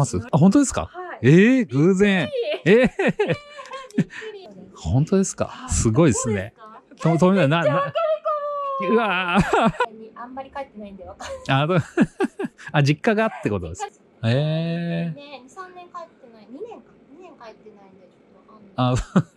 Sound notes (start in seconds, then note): 9.5 laughs